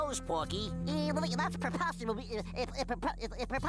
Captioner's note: stuttering